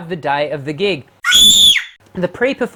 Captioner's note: scream